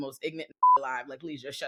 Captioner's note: beep